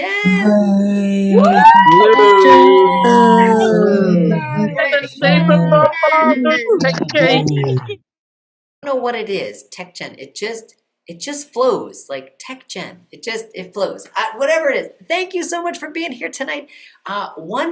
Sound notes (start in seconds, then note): 1.2 cheering